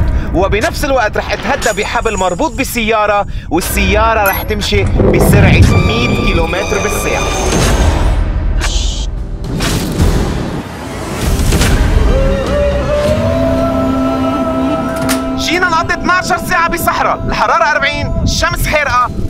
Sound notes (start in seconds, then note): 7.4 clock ticking; 12.0 traditional music